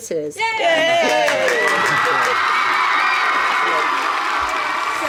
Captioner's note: cheering sound effect